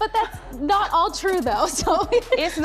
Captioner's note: laughter